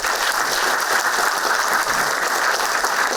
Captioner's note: applauding